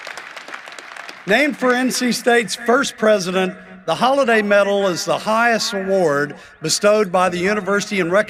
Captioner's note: applause